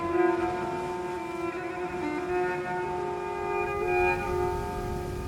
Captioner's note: water splashes